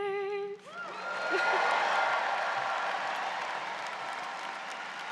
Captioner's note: audience cheers